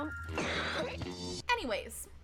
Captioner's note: coughing